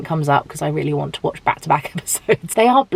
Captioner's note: chuckles